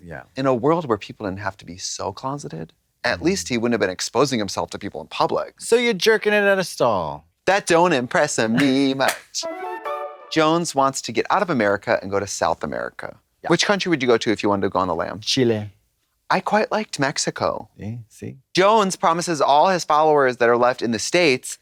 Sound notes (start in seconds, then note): 9.5 bright chime